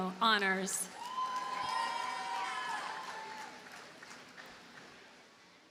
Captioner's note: audience cheers and applauds